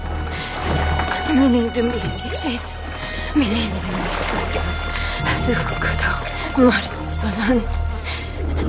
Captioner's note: woman chanting to Akarat; chanting frantically